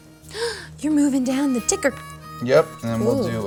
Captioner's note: gasps